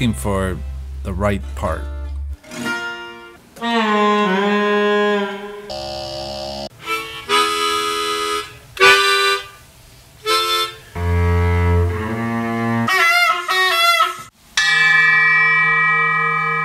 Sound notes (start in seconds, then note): 2.9 piano plinking; 5.6 zapping sound; 6.9 harmonica music; 10.9 bass buzzing; 12.7 trumpet honking; 14.6 bell dings